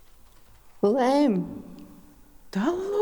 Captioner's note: In Mi’kmaq